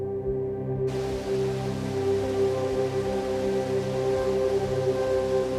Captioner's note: water splashing